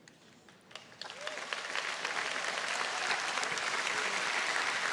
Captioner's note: audience applauding